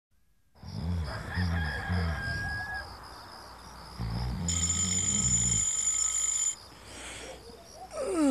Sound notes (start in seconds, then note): 0.9 rooster crowing; 1.0 person snoring; 4.4 alarm clock ringing